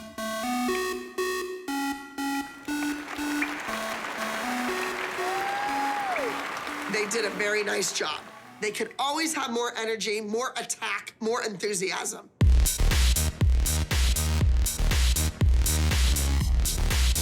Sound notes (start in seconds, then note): 4.2 applause